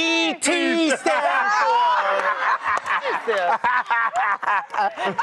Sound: laughter

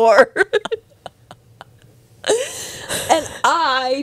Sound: panel laughing

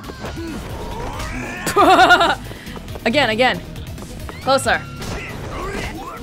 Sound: chuckles

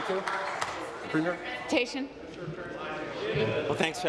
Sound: applause

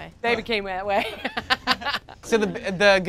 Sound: laughs

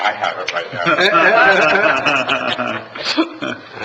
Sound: laughing

